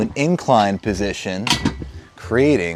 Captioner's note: bench clanks